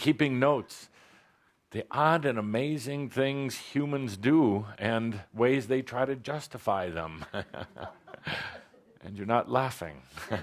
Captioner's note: chuckles